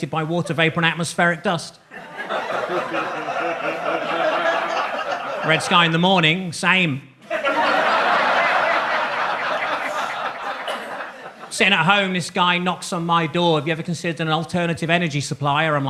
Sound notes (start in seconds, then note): 1.9 audience laughs; 7.2 audience laughs